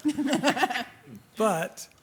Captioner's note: laughs